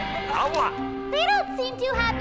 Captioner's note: foreign language